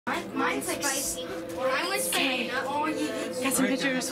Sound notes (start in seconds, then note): 0.0 children talking